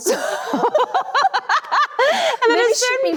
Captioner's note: both laugh cheerfully